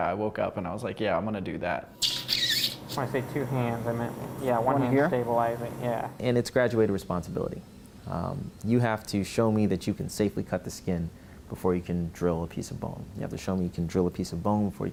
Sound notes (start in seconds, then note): 2.2 tool whizzing